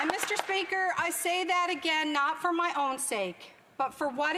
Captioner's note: applause